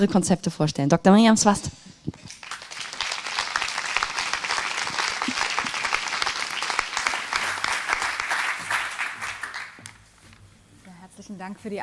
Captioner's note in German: applaus